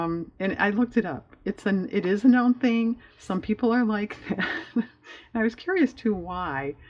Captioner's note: laughs